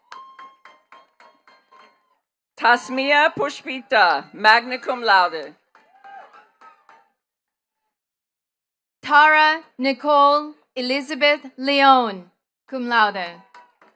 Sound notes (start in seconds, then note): 0.1 attendees cheering and clapping; 5.7 attendees clapping